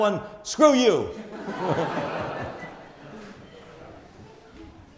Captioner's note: audience laughs